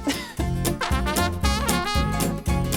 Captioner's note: laughs; upbeat music